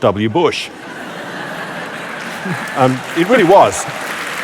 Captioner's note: laughter & Applause